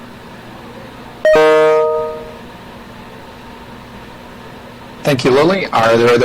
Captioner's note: notification dings